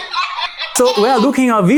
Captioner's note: dog barking